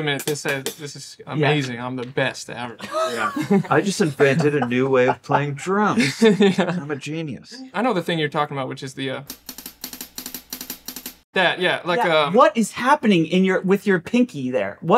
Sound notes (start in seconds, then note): 2.7 laughing; 9.3 drumming